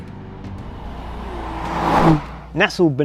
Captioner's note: car zooming